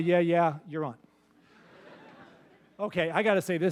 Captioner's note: laughter